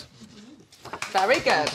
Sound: applause

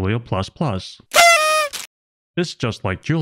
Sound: party horn sound effect

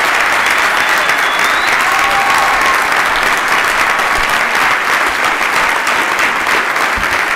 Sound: applause

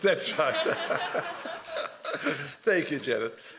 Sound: laughing

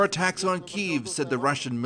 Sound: speaking Foreign Language

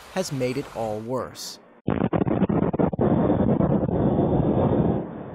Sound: detonation booms

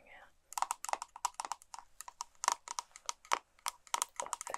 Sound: tapping

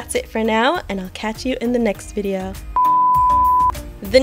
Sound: beep

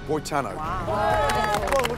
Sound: applause

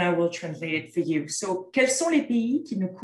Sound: content in French

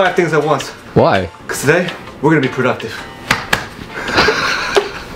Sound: smacks chest; laughing

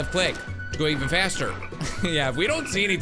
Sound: laughs

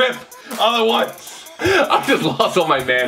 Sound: laughing

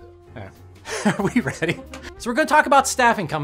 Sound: laughs

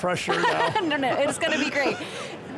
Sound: laughter

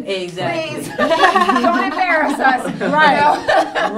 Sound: all laughing

